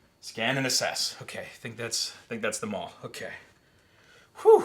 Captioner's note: none